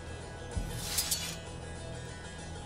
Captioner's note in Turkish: Kılıç Sesi